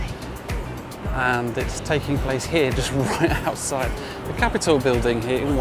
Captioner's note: chuckles